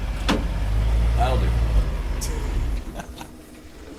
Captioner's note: laughing